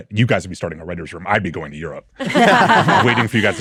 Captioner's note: hosts laughing